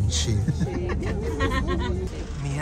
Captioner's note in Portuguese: risos